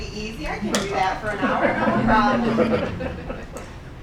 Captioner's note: laughing